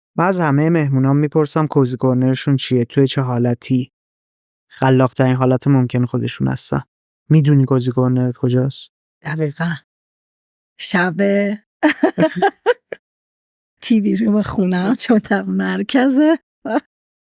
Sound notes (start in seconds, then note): 11.9 laughs